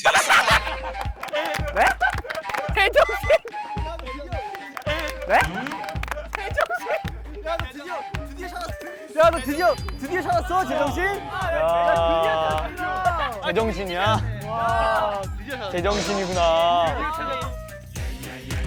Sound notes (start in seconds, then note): 0.2 laughing; 3.0 burst out in laughter